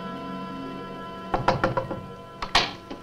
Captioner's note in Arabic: يطرق الباب